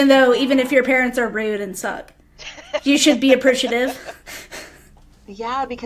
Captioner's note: laughter